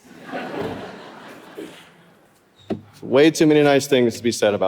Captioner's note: audience laughing